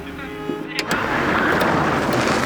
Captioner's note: tires Screeching